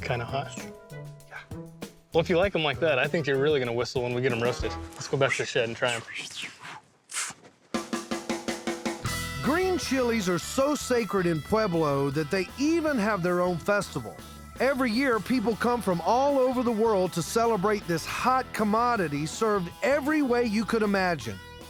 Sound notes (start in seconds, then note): 6.6 whistling